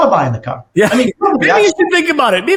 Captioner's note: laughs